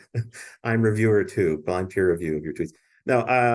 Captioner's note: laughs